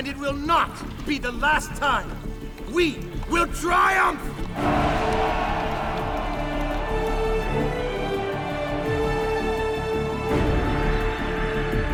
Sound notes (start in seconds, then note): 4.5 cheering; 8.5 adventure music intensifies